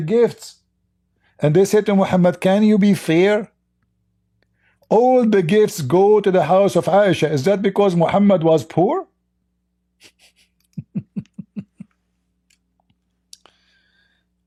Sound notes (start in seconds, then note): 10.0 Ketawa